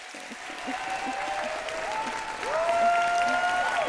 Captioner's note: applause